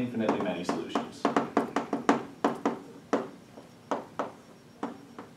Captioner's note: chalk tapping